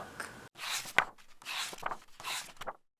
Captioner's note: pages turning